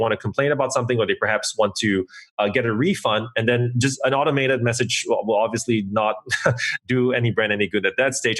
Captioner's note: laughs